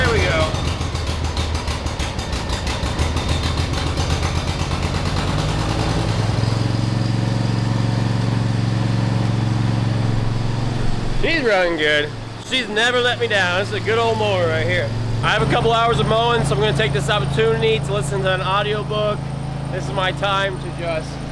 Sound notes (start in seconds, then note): 6.6 engine Revving